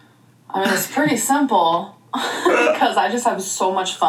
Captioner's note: laughs